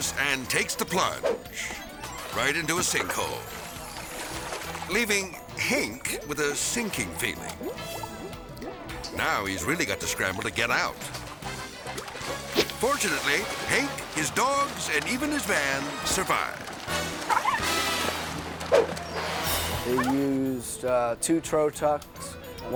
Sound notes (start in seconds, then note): 11.1 whimsical music; 17.2 dog bark bubbling underwater; 18.7 zoom-in whips